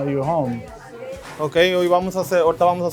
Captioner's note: speaks Spanish